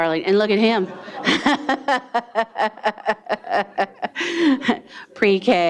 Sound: laughing

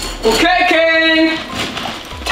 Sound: cup thudding; dog food rattling

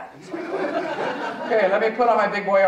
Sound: audience chuckling

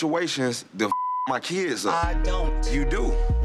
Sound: beep

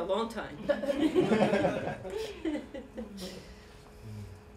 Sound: laughter

